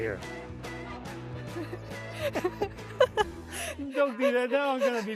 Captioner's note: laughing